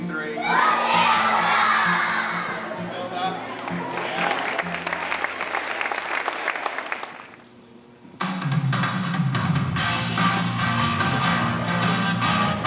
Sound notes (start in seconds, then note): 0.4 crowd answers; 6.8 claps; 8.2 rock music plays